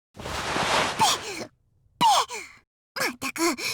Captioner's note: spit